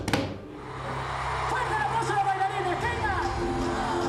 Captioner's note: crowd shrieks